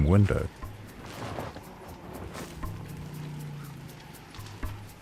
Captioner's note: elephant snoring